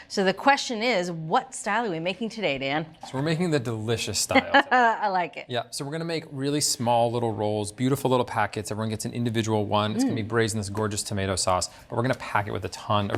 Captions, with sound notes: So the question is, what style are we making today, Dan? - So we're making the delicious style today. - (laughs) I like it. - Yeah, so we're gonna make really small little rolls, beautiful little packets. Everyone gets an individual one. It's gonna be braised in this gorgeous tomato sauce, but we're gonna pack it with a ton